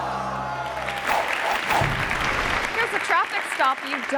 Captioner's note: body thuds; audience clapping; logo whooshing